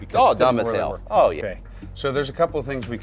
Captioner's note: voiceover